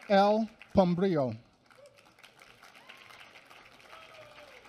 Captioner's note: applause